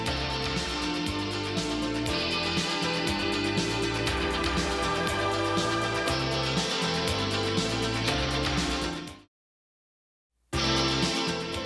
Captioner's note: crowd cheering